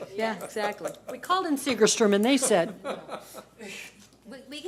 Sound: board laughs

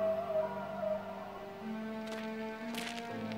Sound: howling

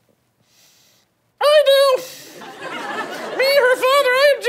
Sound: high-pitched voice

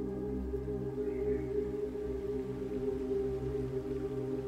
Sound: sounds of birds

